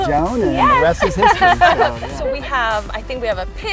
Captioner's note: laughing